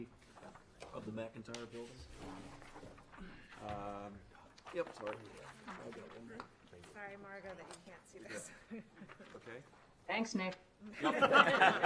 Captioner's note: laughter